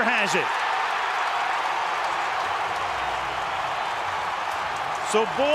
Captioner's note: cheering